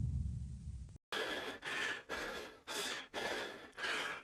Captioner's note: heavy breathing